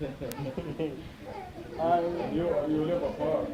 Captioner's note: laughter